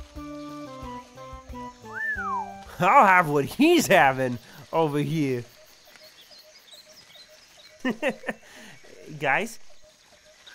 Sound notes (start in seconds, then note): 1.8 whistles